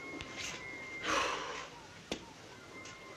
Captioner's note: sighing